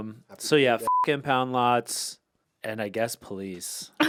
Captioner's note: beep